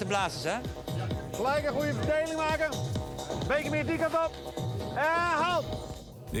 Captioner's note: energetic trance music; speaking in foreign language